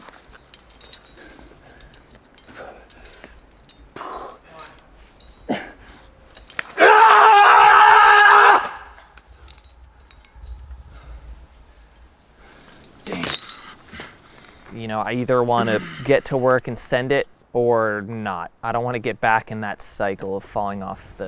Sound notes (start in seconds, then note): 6.7 screaming